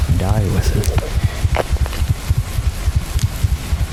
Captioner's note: heart beating very quickly